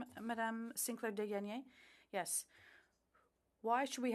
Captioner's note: speaking French